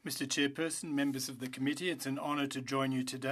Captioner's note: speaking French